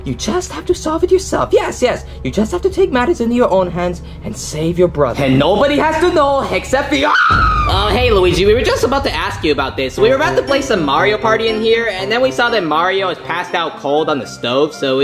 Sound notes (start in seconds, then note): 7.0 screaming